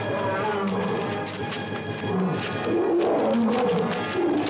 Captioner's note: gorilla bellows